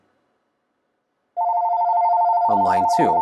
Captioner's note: phone ringing